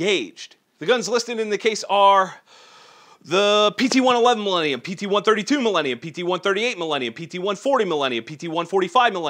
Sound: deep breath

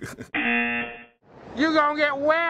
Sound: chuckles; buzzer

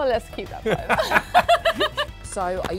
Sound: both laughing

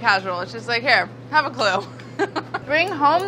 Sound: laughs

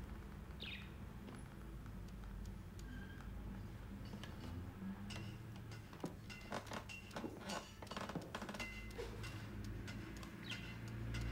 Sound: bird chirping

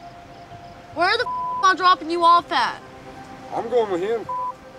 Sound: beep; beep

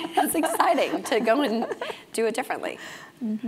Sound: laugh

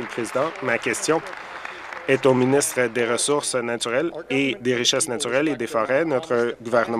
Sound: applause

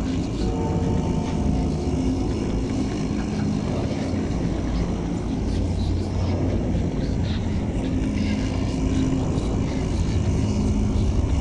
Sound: whispers and chanting are slowly growing in volume

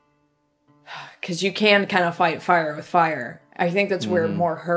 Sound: sigh

